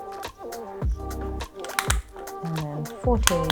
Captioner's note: clicking